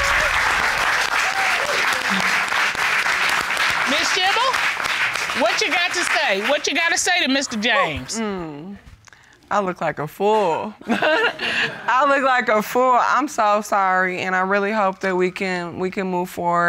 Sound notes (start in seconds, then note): 10.9 laughs